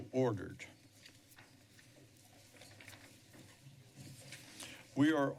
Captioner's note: silence